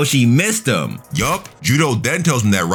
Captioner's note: air whooshing